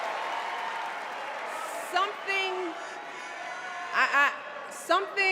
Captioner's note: cheers and applause